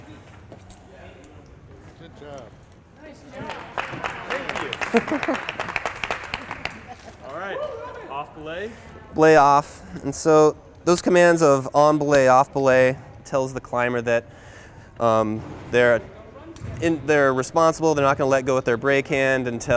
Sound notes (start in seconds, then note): 3.3 applause